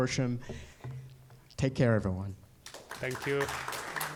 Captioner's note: applause